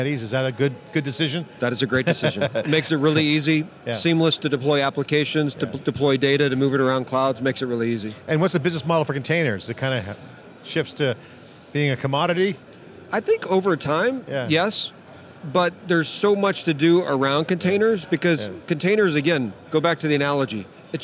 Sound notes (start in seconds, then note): 2.0 laughs